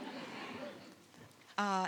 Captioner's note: audience laughs